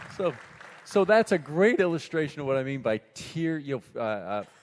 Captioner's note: applause